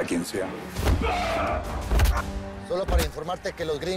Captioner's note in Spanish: Gritos